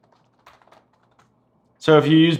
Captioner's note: rapid typing